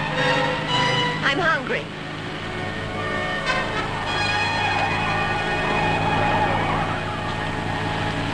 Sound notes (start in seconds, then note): 4.9 tires squealing